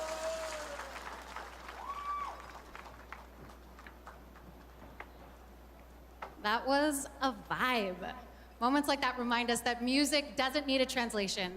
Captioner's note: cheers and Applause